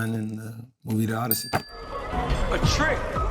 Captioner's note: bell dings